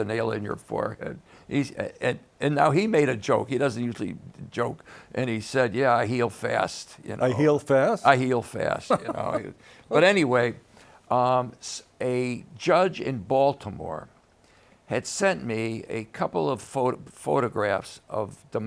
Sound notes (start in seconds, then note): 8.6 laughs